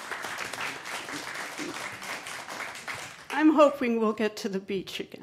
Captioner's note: applause